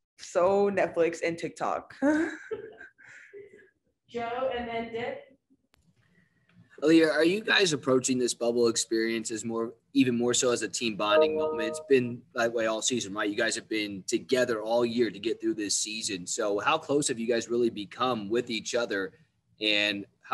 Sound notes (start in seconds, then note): 3.1 laughing; 11.1 chime